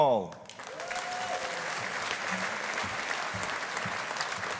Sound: audience applauding

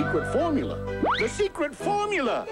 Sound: cartoony whoosh

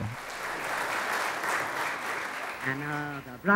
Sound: applause

